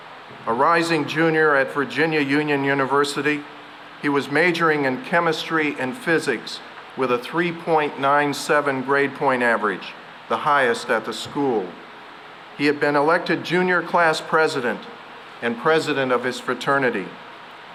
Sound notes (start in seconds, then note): none